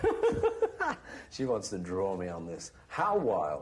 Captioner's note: laughter